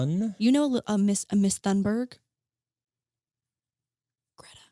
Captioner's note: whispering